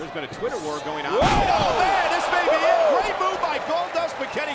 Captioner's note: commentators exclaim